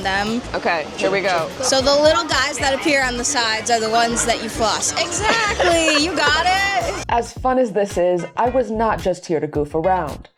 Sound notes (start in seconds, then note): 5.1 laughs